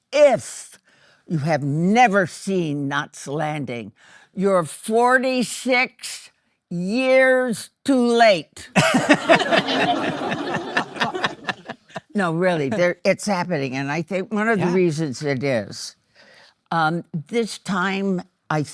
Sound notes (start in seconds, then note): 8.7 laughing; 8.8 audience laughing